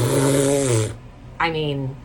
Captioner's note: spatters